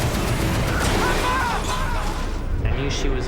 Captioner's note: smashing